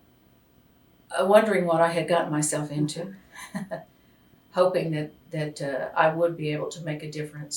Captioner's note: laughter